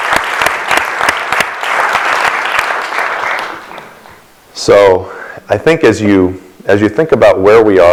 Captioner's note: applause